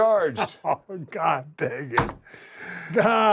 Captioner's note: laugh